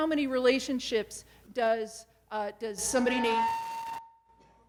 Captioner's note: microphone feedback